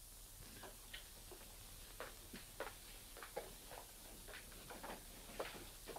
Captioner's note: footsteps tapping